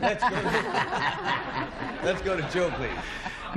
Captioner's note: laughter